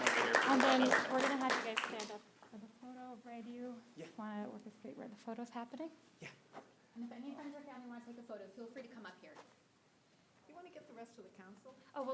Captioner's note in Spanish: aplausos